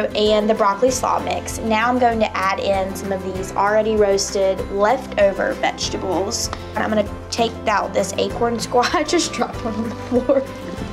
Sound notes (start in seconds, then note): 8.6 laughs